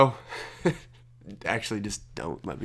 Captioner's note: laughs